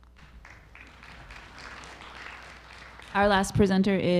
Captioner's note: audience applauding